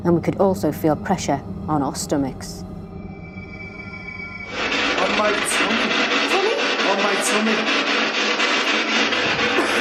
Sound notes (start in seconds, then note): 4.3 static pulsing; 9.6 coughing